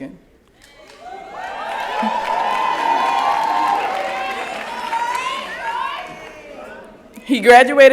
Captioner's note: cheering